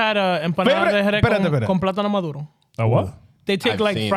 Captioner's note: speaking In Foreign Language